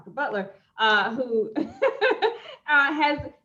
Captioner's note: laughing